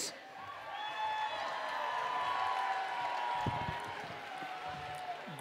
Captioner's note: cheering and Applause